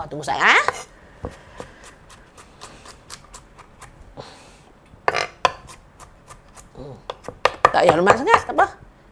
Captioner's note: more chopping and crushing of garlic cloves